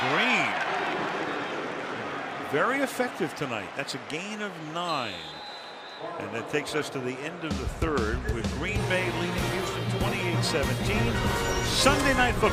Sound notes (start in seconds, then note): 5.0 whistle